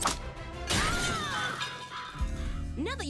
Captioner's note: screaming